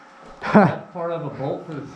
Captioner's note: laughs